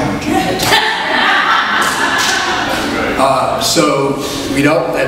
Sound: audience laughs

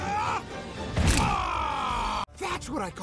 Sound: battle cry; scream of pain

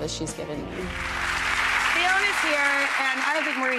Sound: applause

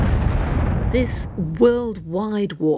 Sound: cannon fire

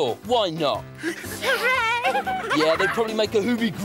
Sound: Iver and Tula laugh

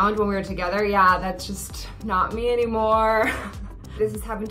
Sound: laughs

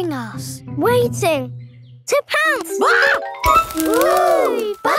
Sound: screams

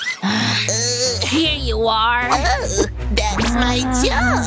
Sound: coughs

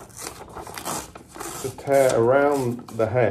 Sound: paper tearing

